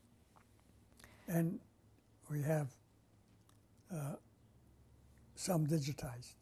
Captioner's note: pauses for 3 seconds